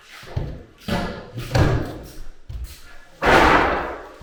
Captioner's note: tool prying